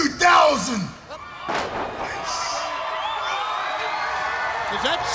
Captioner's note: crowd cheering